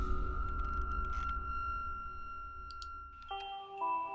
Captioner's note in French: bruits de molette de souris et clic; musique douce